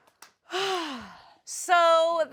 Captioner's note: sighs